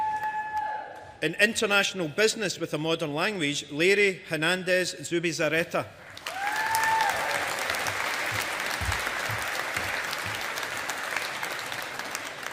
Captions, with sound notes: In International Business with a Modern Language, Leire Hernández Zubizarreta. (AUDIENCE APPLAUDING)